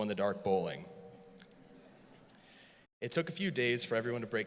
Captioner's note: audience laughs